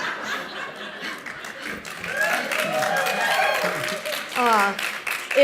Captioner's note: laughter; applause